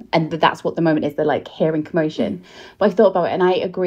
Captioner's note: none